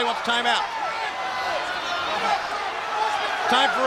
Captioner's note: crowd cheering